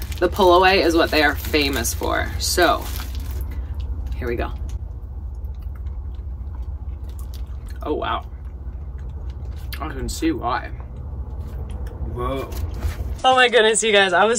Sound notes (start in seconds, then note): none